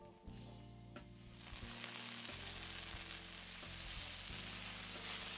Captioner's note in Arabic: أزيز طعام